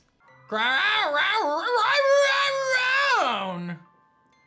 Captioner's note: Calyrex voice